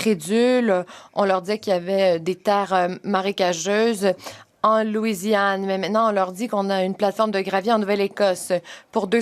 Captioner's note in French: voix de l'interprète